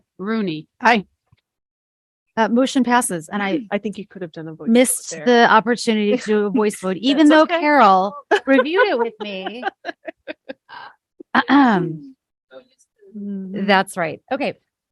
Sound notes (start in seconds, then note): 9.6 laughs